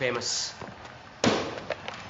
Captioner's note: slaps